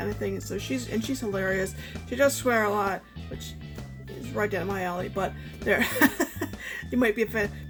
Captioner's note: laughs